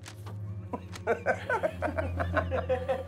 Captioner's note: all laugh